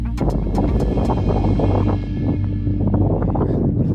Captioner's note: wind blowing